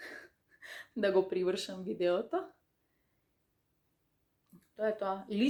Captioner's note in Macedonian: тешко дишење